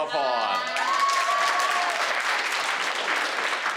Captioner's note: crowd cheering